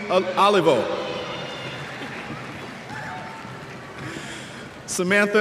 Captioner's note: cheers